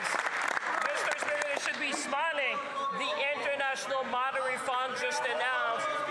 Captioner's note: some Applause